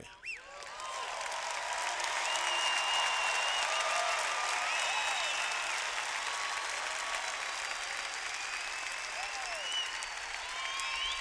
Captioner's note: cheers